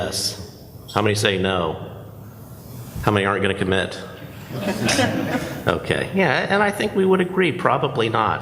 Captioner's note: laughs